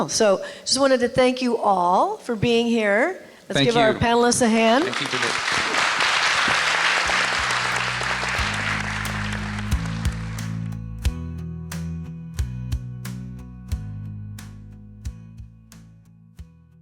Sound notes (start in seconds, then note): 6.2 applause; 8.9 upbeat rock music